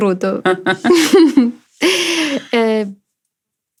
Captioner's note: laughter